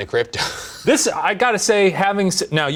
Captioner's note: wheezing